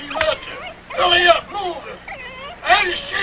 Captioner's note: dog whining